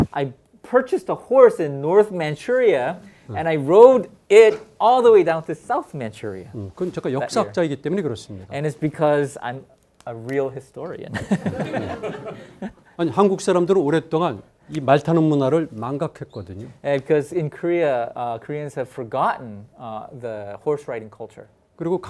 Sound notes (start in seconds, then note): 6.8 speaking in Korean; 11.1 laughs; 11.1 students laughing; 13.3 speaking in Korean